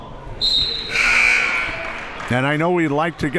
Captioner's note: buzzer